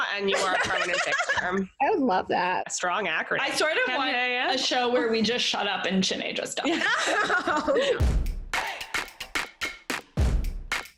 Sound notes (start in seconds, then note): 6.8 laughing; 7.9 upbeat music